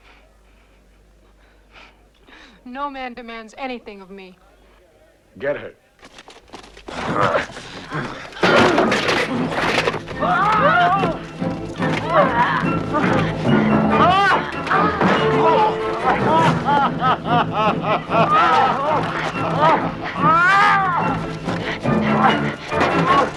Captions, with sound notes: - (Chuckles) No man demands anything of me. - Get her. (Hundra grunting) - Whoa! (Groaning) (Landrazza laughing) (Soldier shouting)